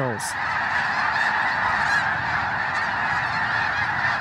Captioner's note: birds squawking